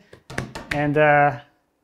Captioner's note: bangs hands